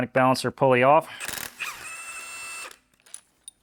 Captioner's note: drill whirring